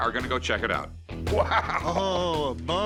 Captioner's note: laughs